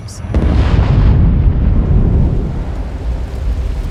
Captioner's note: sound of explosion; crackling fire